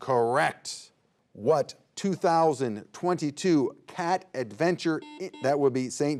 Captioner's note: buzzer beeps